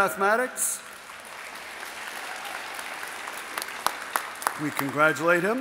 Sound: audience applauding

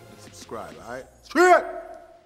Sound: shouting

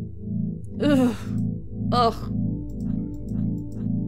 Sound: disgusted Shudder

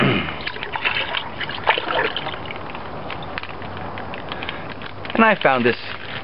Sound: water pouring

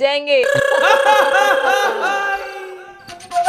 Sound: laughing

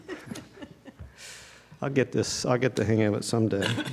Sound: laughter

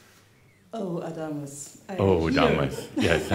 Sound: they chuckle

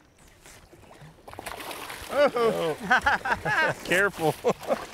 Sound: fish splashes

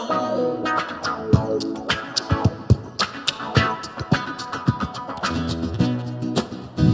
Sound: mouth percussion

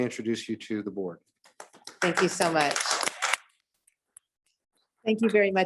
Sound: applause

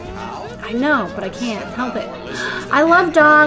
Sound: inhales

